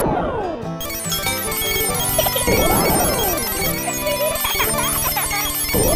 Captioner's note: laugh